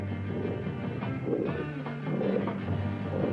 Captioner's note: growling